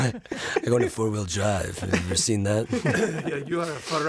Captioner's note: suave voice; Italian accent